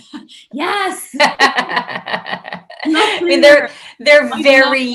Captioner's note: laughs